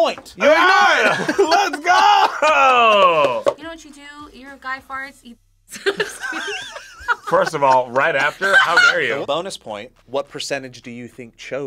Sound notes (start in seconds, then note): 5.8 React laughs; 5.8 laughs